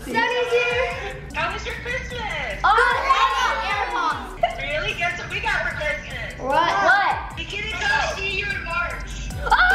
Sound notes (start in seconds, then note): 2.7 excited exclamations